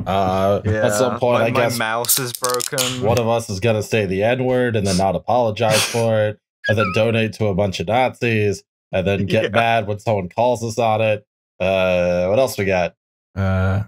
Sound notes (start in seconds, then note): 2.0 TASTY beer can snap